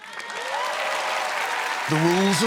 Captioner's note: cheers and applause